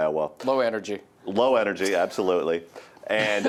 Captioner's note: laughs